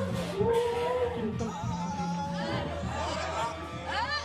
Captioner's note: cheering